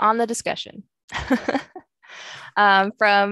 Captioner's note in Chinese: 笑声